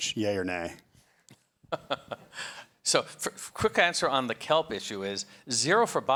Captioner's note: chuckles